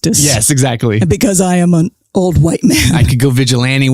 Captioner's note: guffaw